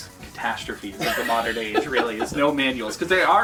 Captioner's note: laughs